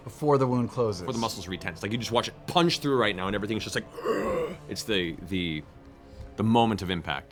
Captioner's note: gasp